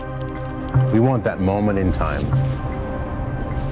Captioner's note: male Voice